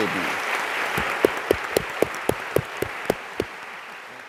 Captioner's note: applause